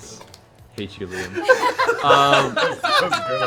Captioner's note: laughter